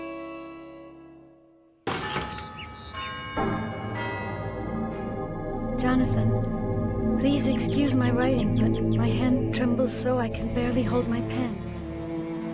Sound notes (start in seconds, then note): 2.0 clock chiming